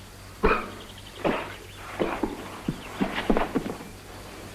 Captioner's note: sound of cough and fatal fall-down